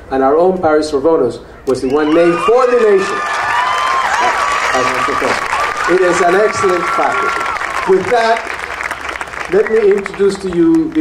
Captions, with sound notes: And our own Paris Svoronos, was the one named for the nation (audience cheering and applauding) as our professor. It is an excellent faculty. With that, let me introduce to you